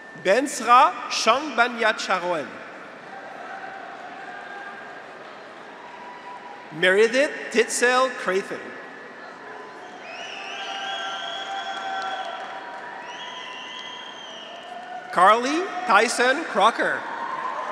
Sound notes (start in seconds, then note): 2.9 graduates cheer; 8.9 graduates cheer; 10.4 audience applauds; 17.4 graduates cheer